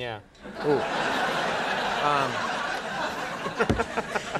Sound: applause

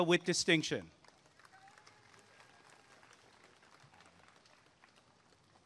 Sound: applause and cheering

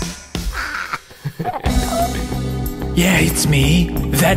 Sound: laughs

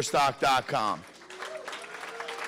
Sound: applause

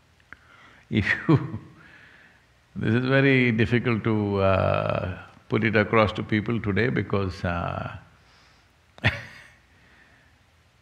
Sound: laughs

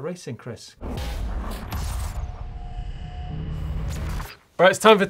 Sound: metal crashing and sparking

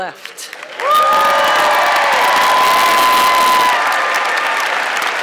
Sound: audience clapping and cheering

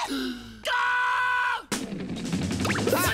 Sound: screams; whistling upbeat music

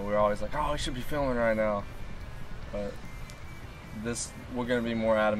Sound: none

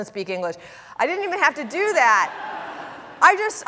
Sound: audience laughing

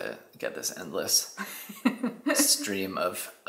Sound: laughs

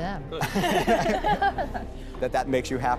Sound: laughter

